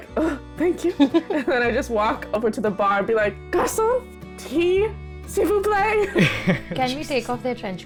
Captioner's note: laughter